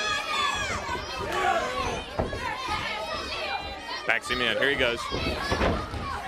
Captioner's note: crowd chatter